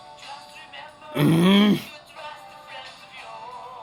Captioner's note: Angrier IT groans